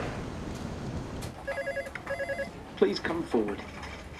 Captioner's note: phone ringing